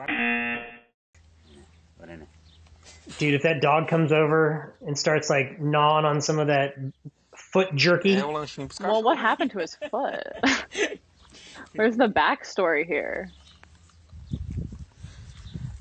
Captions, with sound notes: (buzzer rings) - Dude, if that dog comes over and starts like gnawing on some of that foot jerky. - Well, what happened to his foot? (laughs) Where's the backstory here?